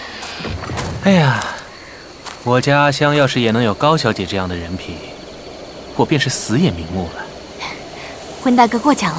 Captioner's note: sigh